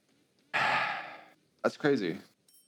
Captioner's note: sigh